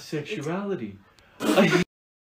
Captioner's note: laughs